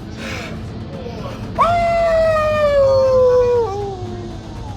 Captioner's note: Terry howls